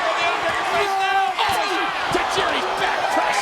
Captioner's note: crowd chattering